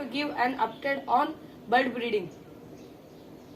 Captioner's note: bird